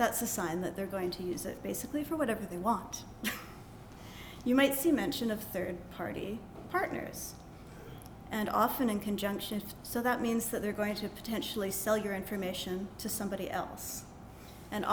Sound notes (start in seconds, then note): 3.2 chuckle